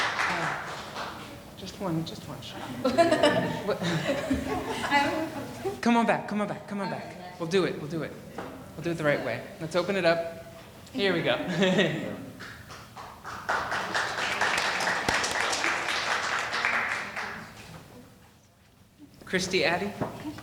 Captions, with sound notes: - Just one, just one shot. (laughing) Come on back, come on back, come on back. We'll do it, we'll do it. We'll do it the right way. Let's open it up. Here we go. (laughing) (audience applauding) Christy Addy?